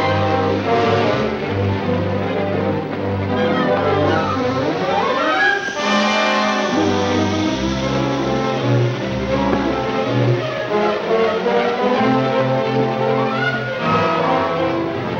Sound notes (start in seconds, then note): 3.6 dynamite fuse hissing